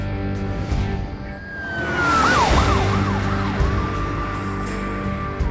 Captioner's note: police siren